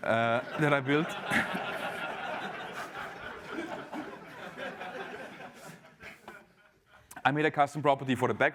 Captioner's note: laugh